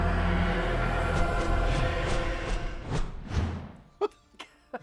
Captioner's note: ominous music; panels swooshing; laughs